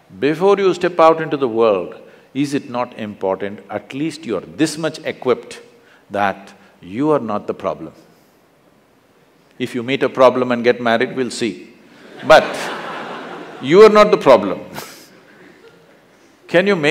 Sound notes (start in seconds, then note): 12.0 laughter